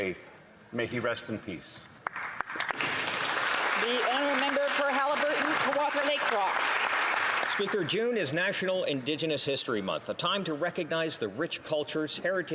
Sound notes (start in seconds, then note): 6.0 applause